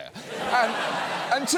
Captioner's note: studio audience laughs